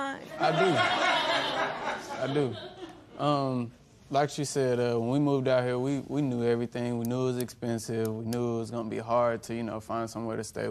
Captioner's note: laughter